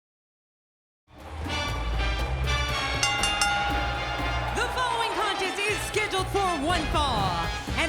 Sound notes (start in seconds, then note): 1.2 upbeat salsa music; 2.8 bell ringing